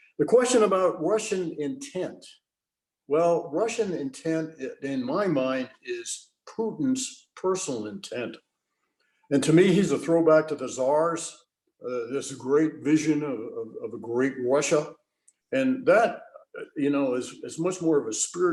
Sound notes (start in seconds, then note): none